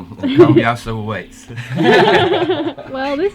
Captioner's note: all laughing